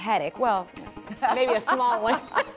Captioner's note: laughter